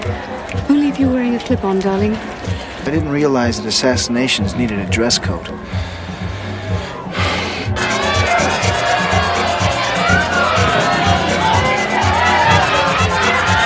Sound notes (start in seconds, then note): 5.5 sighing; 10.0 uptempo Samba music